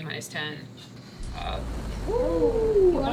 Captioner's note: rocket engines roaring in distance